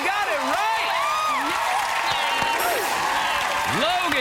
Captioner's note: cheers and applause